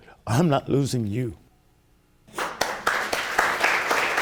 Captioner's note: audience applauds